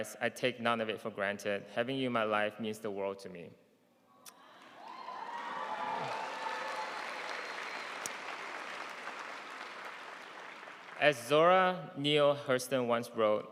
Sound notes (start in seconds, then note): 4.4 audience cheering and applauding